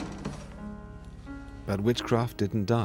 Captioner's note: door slams shut